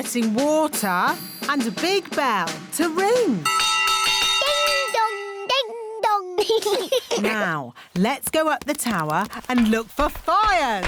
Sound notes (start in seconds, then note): 3.4 bell rings; 6.5 laughter